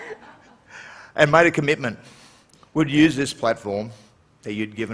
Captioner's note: laughter